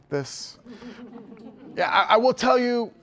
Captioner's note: laughter